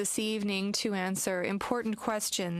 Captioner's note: speaking French